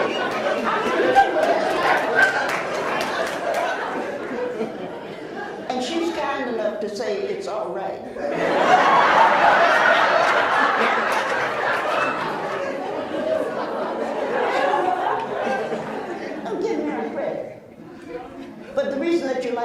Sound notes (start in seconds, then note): 11.8 laughs